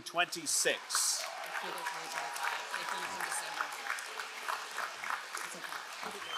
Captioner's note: crowd cheering and applauding